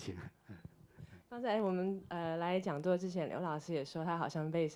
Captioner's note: Mandarin